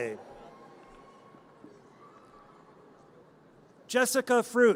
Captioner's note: audience cheers